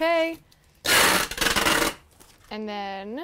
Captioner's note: tape pulling